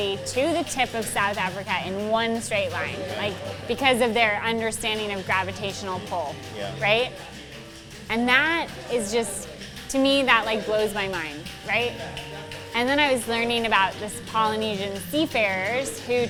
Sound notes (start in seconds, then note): none